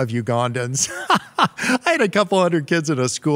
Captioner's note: laughs